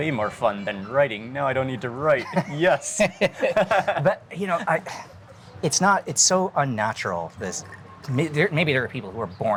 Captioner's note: laughing